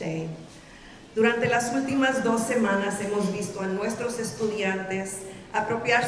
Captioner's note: speaking in Spanish